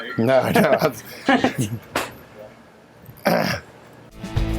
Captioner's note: laughing